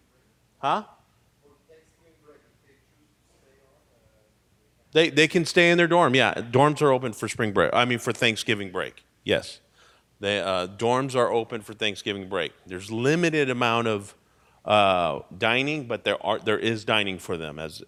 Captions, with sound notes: Huh? (person speaking off mic) They, they can stay in their dorm. Yeah. Dorms are open for spring break, I mean for Thanksgiving break, yes. The dorms are open for Thanksgiving break. There's limited amount of dining. But there is dining for them as,